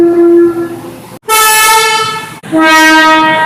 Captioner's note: air Horn